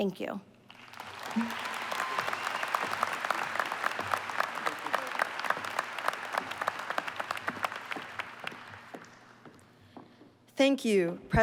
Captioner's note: applause